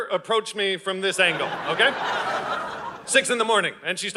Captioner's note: audience laughing